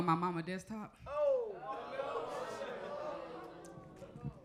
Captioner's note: audience groaning